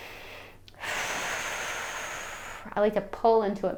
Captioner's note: exhales sharply